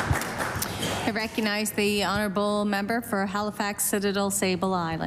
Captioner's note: applause